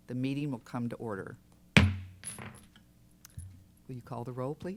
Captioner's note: gavel bangs